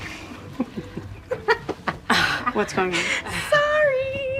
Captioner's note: laughter